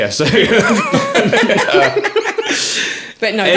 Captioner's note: laughing